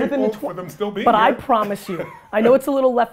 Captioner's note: laughs